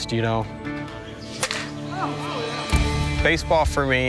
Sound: hitting a baseball

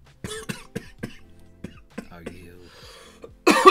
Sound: choking on his own spit

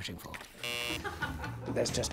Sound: buzzer buzzing; laughing

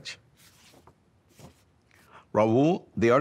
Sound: page turns

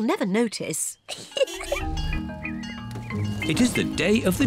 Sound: giggles

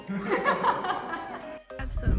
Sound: laughing

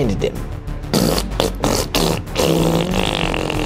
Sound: farting

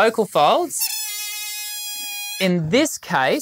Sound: balloon wheezing

